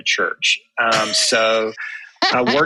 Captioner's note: laughter